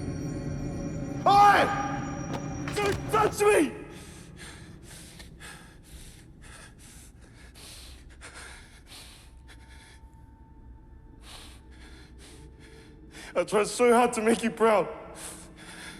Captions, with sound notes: Oi! - Don't touch me! (BREATHES HEAVILY) (BREATHES SHAKILY) (SOMBRE MUSIC) I try so hard to make you proud,